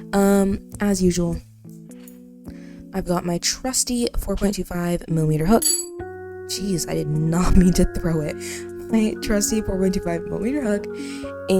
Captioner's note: Hook falls loudly